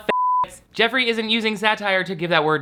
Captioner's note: beep